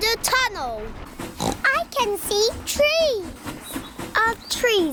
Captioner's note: oinks